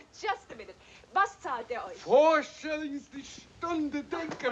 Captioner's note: speaking foreign language